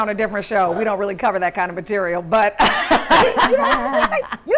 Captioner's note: laughing